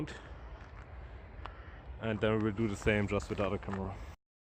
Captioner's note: crows crowing in the background